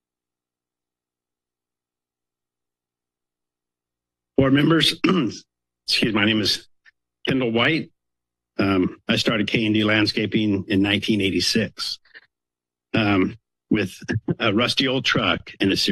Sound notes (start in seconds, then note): 4.4 coughs